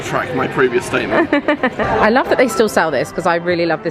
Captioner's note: laughing